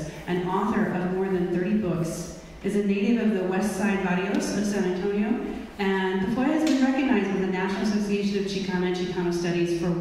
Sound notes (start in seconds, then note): none